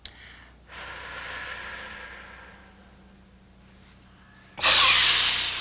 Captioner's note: breathing